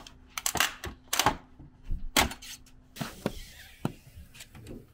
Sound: snips scraping

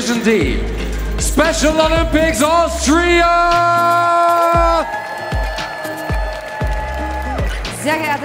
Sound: audience "ooooos"

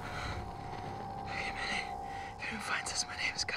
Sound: pained breathing, static fuzz; whispering

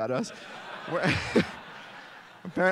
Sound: laughter

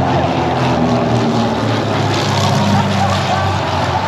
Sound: plane engine roars

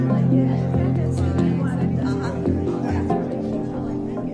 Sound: crowd chattering

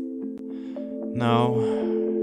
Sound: sigh

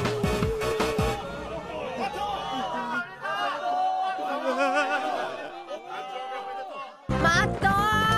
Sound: crowd

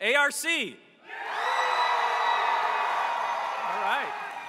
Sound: applause

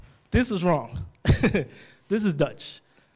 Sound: laughs

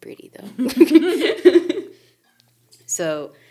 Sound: speakers giggling

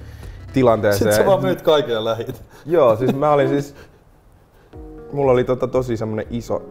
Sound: chuckles

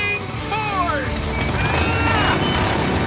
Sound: revving

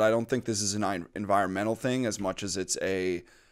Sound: none

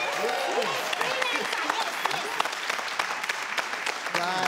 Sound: cheering

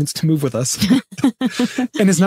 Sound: laughing

